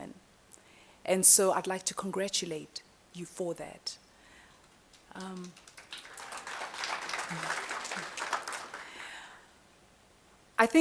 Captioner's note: applause